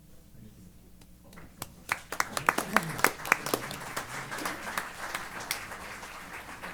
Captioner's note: applause